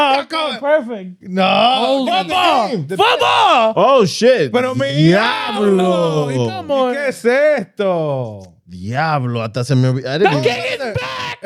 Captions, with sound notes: That goes perfect. No, no, no, no. Oh shit. (Speaking In German) The kick is back.